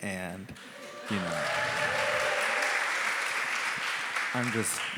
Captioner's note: applause